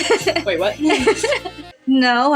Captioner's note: laugh